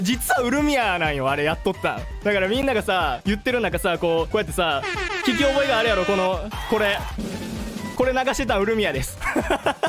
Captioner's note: siren noises; drum roll